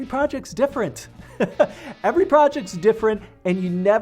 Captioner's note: laughs